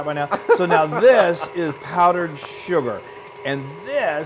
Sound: laugh

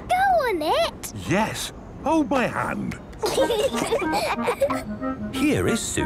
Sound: children giggling

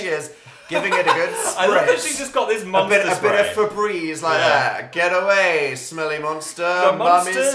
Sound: laughs

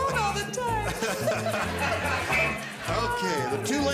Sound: laughter

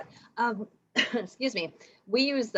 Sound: coughs

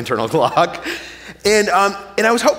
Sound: chuckling

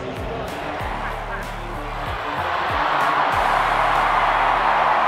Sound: crowd cheering

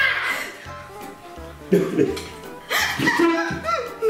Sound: laughs

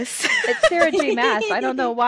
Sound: laughter

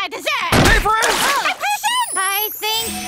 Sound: splash

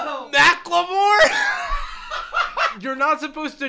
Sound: laughs

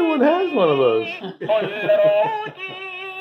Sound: laughter

